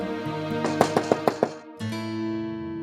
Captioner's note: knocking on door